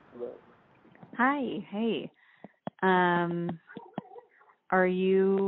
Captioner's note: dog barks